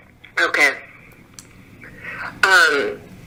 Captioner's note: on phone